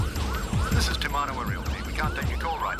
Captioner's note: siren wailing; recorded Message